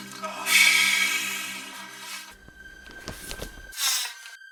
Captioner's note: whew